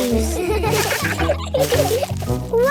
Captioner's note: laughter